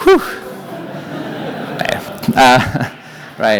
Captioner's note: laughter